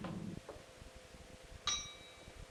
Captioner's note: bell sound